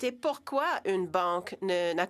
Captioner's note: speaking French